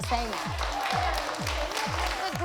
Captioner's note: applause and cheering